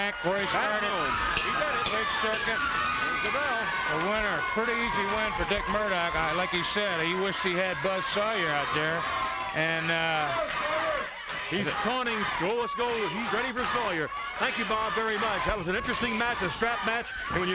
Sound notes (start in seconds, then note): 0.7 bell ringing